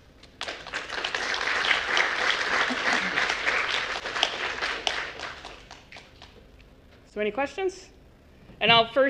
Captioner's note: applause